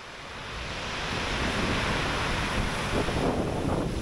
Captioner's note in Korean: 에트르타의 거친 파도 소리